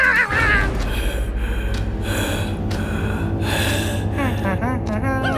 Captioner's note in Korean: 거친 숨소리